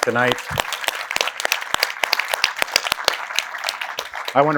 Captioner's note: applause